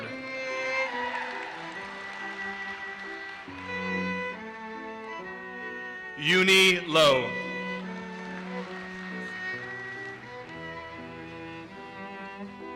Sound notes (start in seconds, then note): 0.6 audience cheers and applauses; 7.8 audience applauses